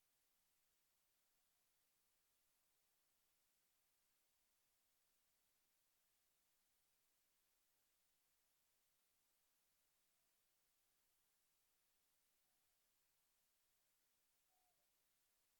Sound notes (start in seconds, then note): none